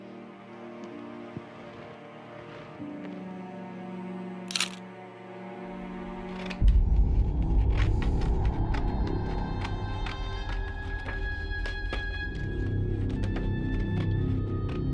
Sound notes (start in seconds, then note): 0.1 dramatic music; 4.5 camera shutter clicking; 6.7 dramatic music; 9.6 dramatic music